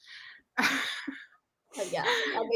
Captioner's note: laughs